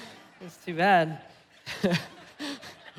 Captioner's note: laughing